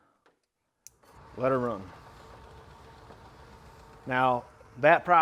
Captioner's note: motor whirs